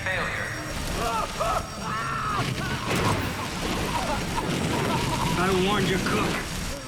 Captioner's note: screaming and coughing